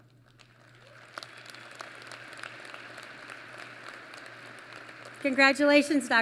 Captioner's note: applause